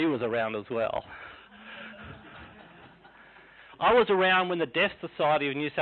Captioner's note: laughing